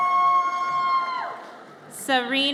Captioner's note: audience cheers